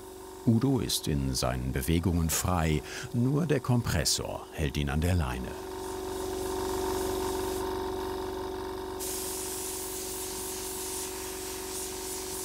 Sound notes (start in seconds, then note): 6.3 gentle humming